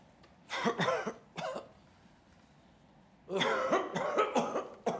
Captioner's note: person coughing